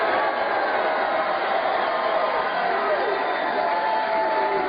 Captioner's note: cheers and applause